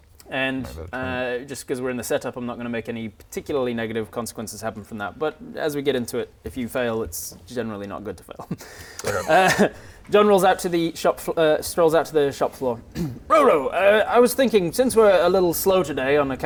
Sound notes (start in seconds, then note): 8.9 laughs